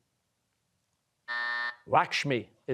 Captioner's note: buzzer